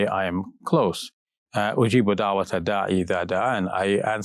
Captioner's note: speaking Arabic